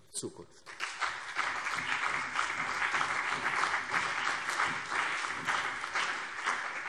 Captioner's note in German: Beifall CDU und BÜNDNIS 90/DIE GRÜNEN